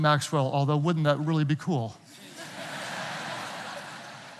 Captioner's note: audience laughing